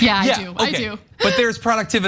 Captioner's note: laugh